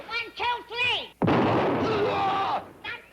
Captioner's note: gunshot